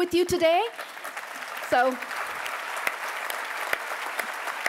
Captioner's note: applause